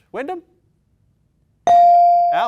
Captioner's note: bell dings